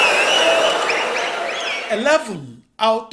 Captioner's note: wild applause and cheering for 22 seconds